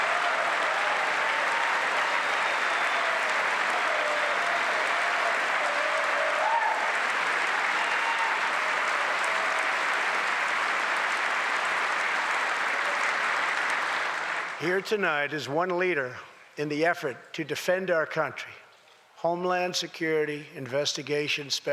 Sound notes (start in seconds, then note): 4.9 applause